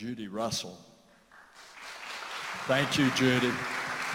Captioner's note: applause